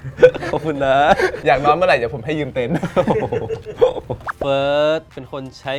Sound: laughs

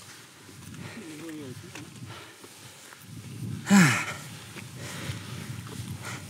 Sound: heavy breathing

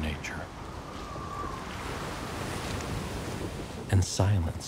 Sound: waves crashing

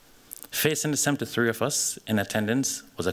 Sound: none

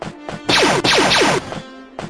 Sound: blaster fire

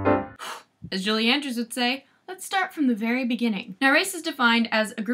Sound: sharp exhale

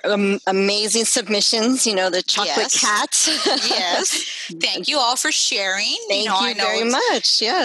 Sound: laughing

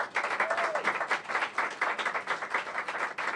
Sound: applause

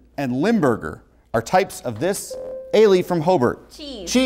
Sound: buzzer

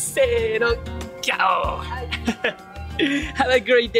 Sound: lion roar in Japanese

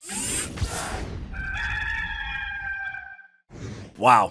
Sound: cock crows

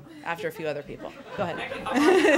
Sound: laughter

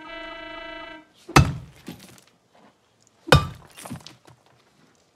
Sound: hammering on wall

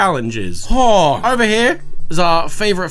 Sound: groaning

